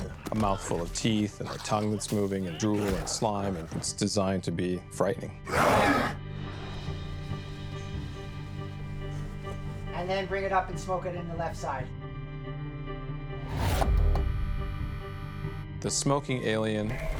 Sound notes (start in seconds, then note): 5.4 roars